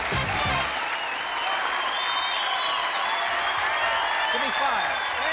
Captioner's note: cheering